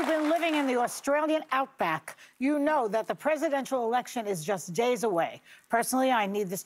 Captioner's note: cheers and applause